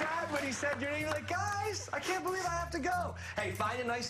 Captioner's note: applause